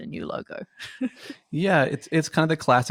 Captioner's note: laughs